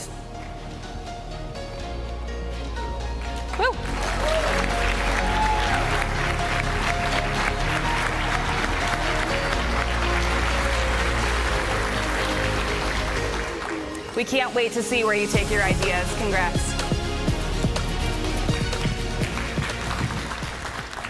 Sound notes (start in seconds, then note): 7.7 applause